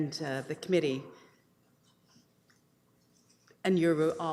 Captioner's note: audio drop